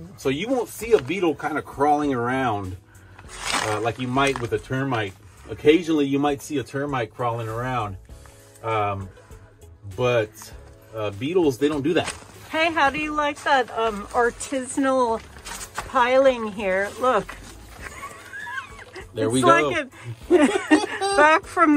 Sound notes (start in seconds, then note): 17.8 ha ha